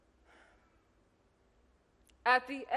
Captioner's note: Hatshepsut sighs